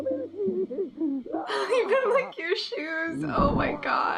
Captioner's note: laughs